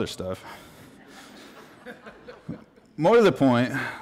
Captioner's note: laughter